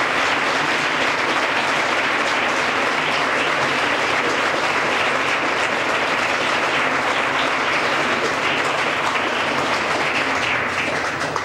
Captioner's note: applause